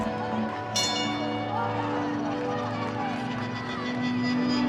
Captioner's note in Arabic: رنين الجرس